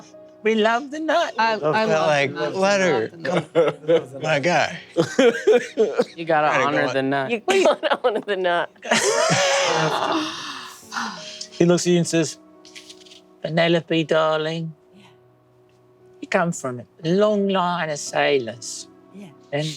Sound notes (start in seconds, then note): 8.8 everyone laughing